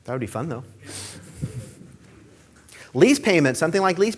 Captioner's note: audience laughing